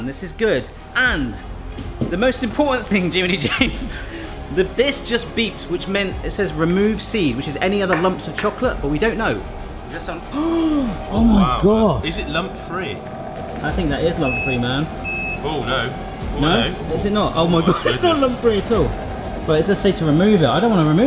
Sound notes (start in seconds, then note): 10.3 gasps